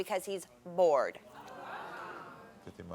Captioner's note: audience scoffing